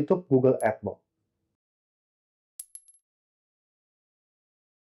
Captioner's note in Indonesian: coin sound